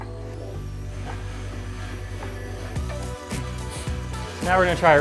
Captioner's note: trainer whirs